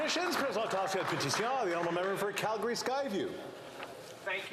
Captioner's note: applause